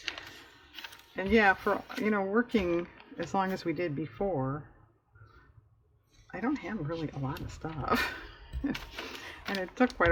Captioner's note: laughs